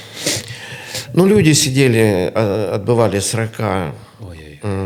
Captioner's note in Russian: фыркает